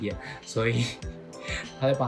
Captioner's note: laugh